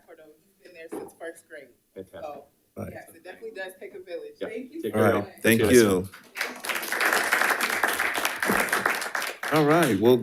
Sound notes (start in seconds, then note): 5.8 audience applauding